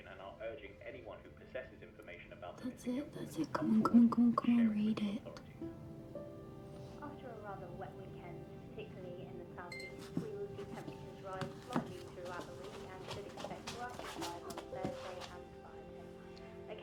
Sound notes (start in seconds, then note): 9.2 laptop beeping